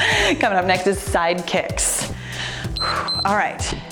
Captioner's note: timer beeps